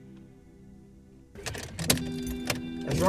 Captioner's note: keys jingle in ignition